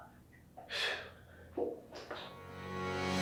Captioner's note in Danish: håner